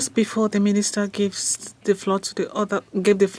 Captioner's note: speaking French